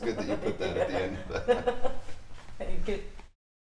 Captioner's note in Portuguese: risos